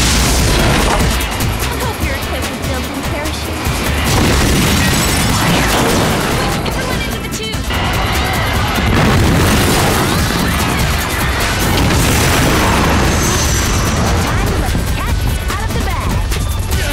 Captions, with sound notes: I hope you're equipped with built-in parachutes. [crashing] Quick, everyone into the tube. [shouting] [explosion] [screaming] Time to let the CATS out of the bag.